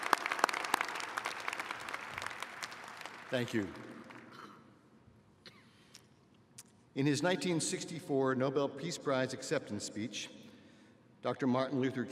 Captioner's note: applause